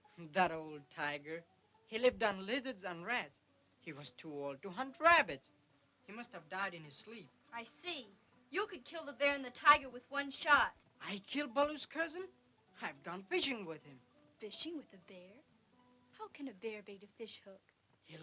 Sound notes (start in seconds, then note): none